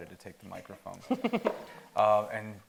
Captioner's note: chuckling